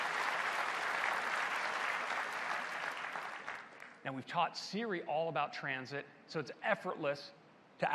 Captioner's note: applause